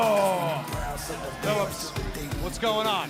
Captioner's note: crowd cheering